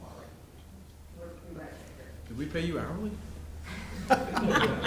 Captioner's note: laughter